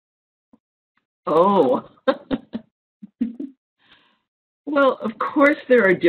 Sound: laughs

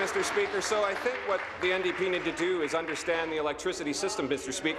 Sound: applause

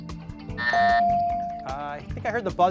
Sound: device dings

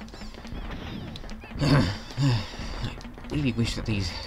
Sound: irritated sigh

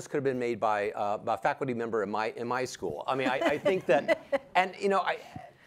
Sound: panelists laugh

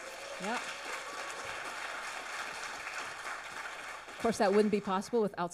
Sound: audience applauds

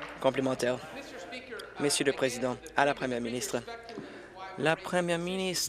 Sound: applause

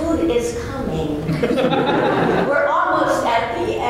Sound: laughter

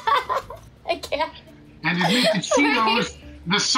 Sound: laughs

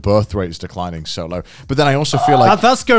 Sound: laughing

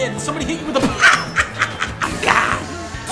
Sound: Dunkey laughs

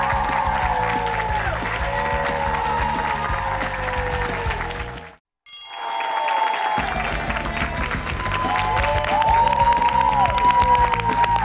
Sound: bell rings; cheers and applause

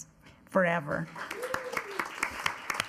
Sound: attendees clapping

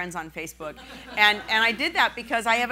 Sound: laughing

